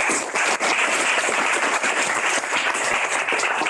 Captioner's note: applause